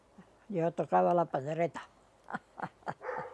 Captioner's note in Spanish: ríe